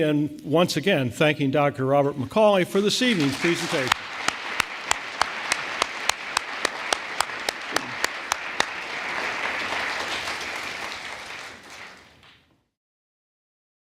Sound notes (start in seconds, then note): 4.4 audience applauding